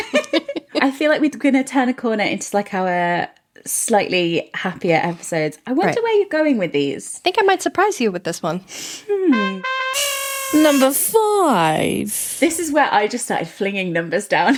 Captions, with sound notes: I feel like we're gonna turn a corner into like our slightly happier episodes. I wonder where you're going with these. - I think I might surprise you with this one. (horn honking) - Number five. This is where I just started flinging numbers down.